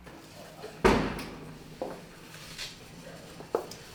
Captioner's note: door opening